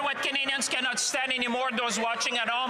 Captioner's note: some Applause